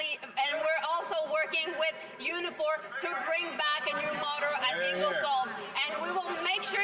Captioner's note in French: voix de l'interprète